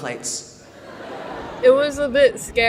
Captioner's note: audience laughs